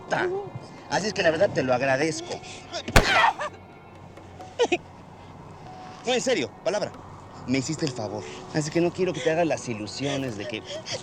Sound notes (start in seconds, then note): 3.0 grunts; 6.0 speaking spanish